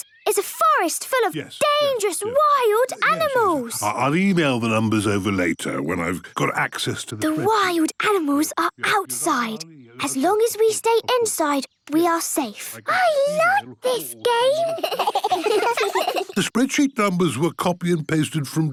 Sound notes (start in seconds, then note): 15.0 giggling